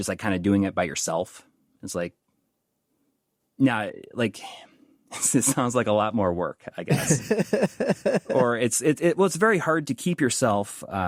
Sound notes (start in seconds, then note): 6.9 laughing